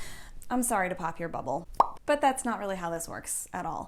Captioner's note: pop